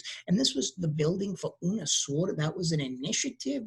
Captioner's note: speaking in a foreign language